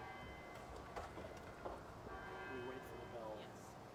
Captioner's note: bells ringing